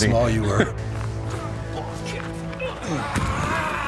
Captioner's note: men grunt